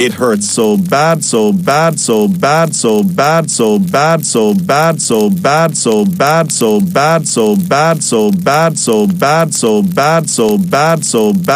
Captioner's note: Boris saying "SO BAD!" many times